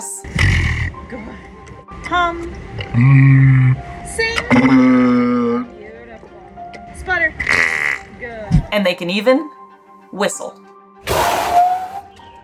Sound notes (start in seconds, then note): 0.3 walrus makes growling vocalization; 2.9 walrus makes deep humming vocalization; 4.6 walrus makes singing vocalization; 8.5 walrus makes higher-pitched vocalization; 11.1 Balzak makes whistling vocalization; 12.2 background music